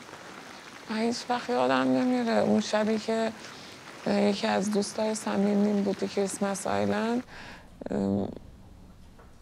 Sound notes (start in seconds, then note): 1.0 speaking foreign language